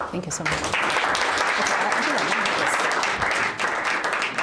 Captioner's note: applause